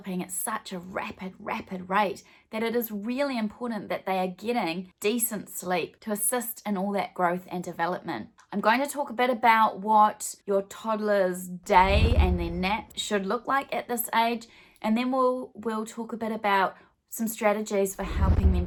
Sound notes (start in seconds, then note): 11.7 swooshing; 18.0 swooshing